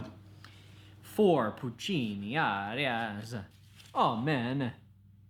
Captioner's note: italian accent